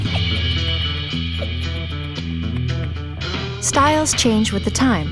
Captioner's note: giggling